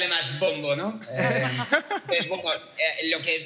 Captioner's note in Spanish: algunos ríen